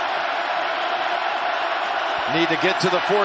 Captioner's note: cheering and applause